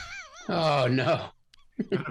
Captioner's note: laughs